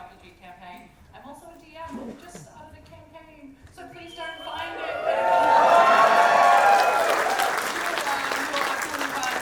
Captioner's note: audience cheers